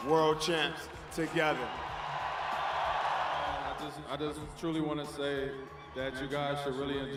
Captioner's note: cheers and Applause; cheers and Applause